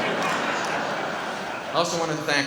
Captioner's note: audience laughs